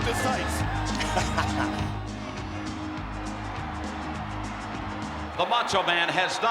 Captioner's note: Vince laughs; upbeat music continues